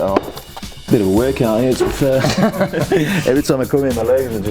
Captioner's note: laughter